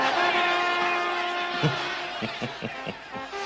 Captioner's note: narrator chuckling